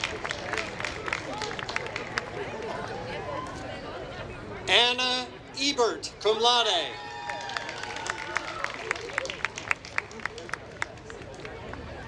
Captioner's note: applause